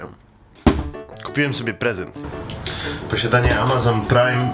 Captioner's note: thud